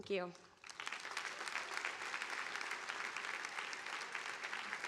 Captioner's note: audience applauding